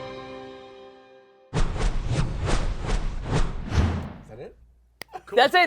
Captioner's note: whooshing